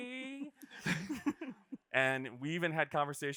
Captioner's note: group laughing